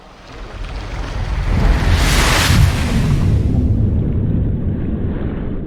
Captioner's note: waves crashing; deep water gurgling